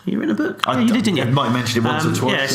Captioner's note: laughs